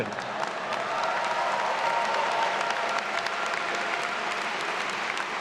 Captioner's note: attendees applauding and cheering